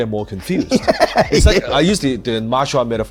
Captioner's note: laughs